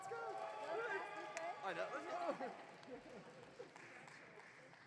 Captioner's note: audience cheering